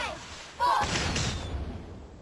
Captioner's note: bang